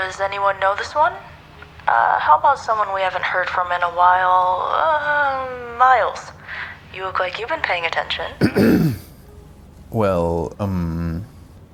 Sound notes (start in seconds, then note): 8.4 Miles clears his throat